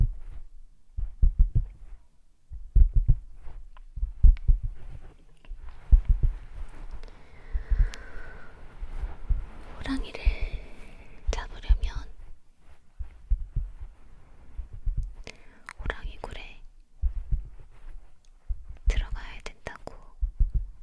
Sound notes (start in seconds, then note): 1.1 tapping with fingers